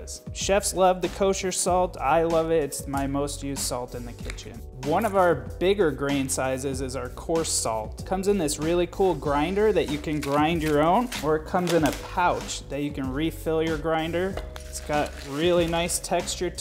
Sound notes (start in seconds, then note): 10.0 salt grinds; 14.3 crunching